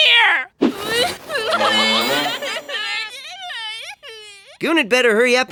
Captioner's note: sobbing